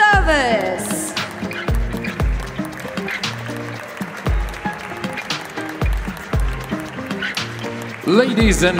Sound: applause; ♫ Midtempo guitar music ♫

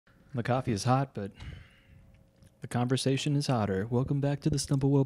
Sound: sighs

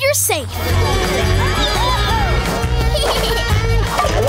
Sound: laughing

